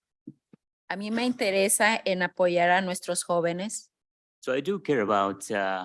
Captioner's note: speaking in Spanish